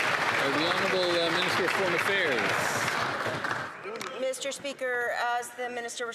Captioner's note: some Applause